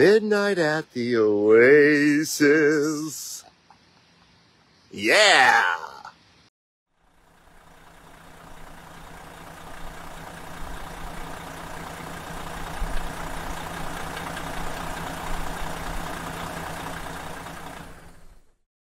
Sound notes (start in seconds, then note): 3.7 laughs; 8.1 motor running